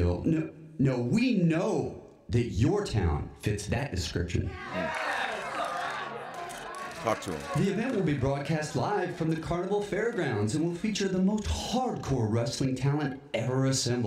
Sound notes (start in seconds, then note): 4.5 applause